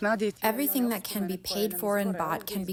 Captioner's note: through translator